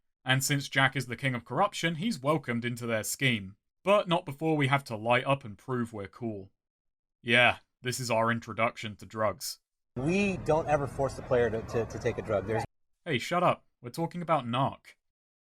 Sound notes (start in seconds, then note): none